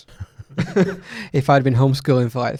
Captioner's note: laughing together